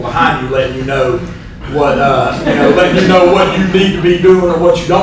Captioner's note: laughter